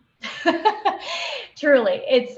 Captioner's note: laughing